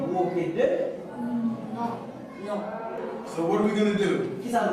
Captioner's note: speaks softly